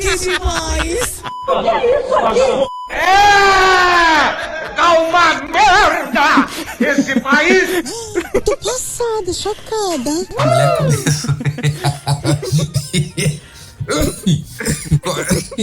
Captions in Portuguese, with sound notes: Que demais! "O que que é isso aqui?" É! Está uma merda esse país! Oh! Eu estou pasma! Chocada! a mulher começou... (risos) (risos e tosse)